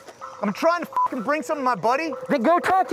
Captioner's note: beep